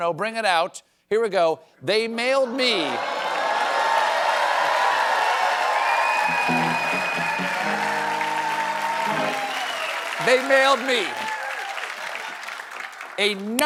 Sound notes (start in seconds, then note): 2.4 cheers and applause